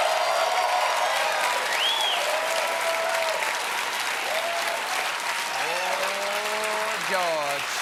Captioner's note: cheers and applause